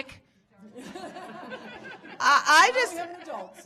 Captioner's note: audience laughing